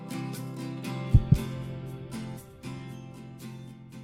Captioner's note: heart beats